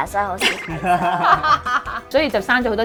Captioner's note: laughing